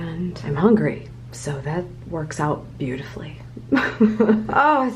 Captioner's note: chuckels